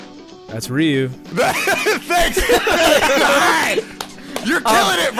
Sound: laughing; clapping

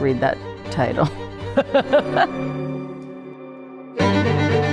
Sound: laughs; violin music

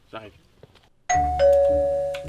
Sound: it rings the doorbell

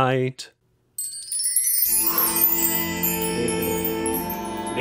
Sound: chimes twinkling

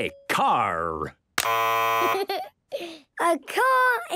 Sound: buzzes

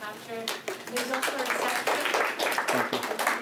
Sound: applause

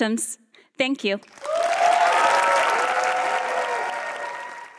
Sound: cheering and applause

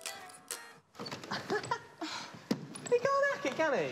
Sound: laughs

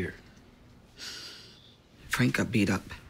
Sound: exhales sharply

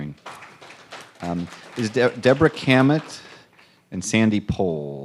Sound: applause

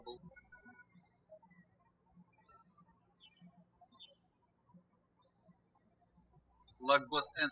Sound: birds chirping

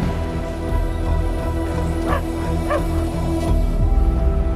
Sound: woman and son running. Dog barks

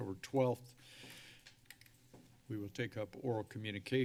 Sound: sigh

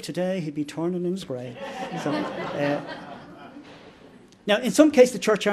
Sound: laughter

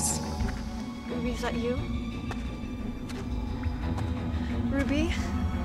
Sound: footsteps approaching

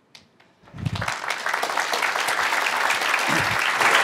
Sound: applause

